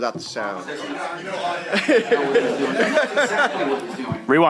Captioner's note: laughter